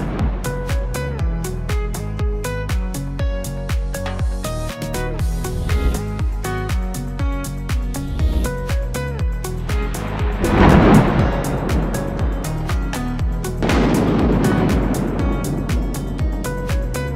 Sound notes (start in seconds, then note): 0.0 thunder crashing; 5.9 upbeat music continues; 9.7 thunder crashing